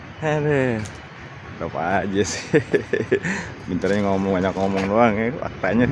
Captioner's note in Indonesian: tertawa